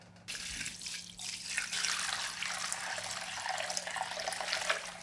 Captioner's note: water pouring